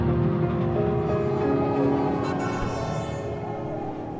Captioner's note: train whistle blares